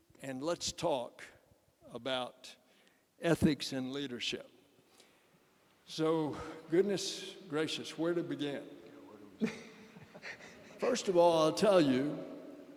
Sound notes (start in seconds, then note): 9.4 laughter